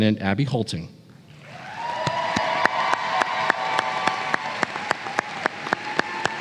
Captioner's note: applause